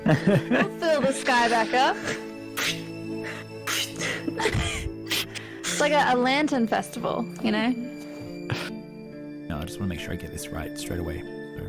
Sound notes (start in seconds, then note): 0.0 laughs; 2.3 sound of throwing stars into the sky; 4.2 giggling